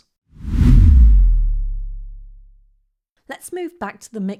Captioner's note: air whooshing